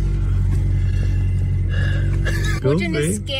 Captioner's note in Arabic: تنهد